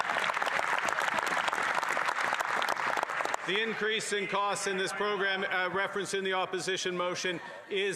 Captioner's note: applause